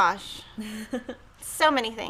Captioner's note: chuckles